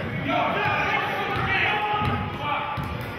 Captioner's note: yelling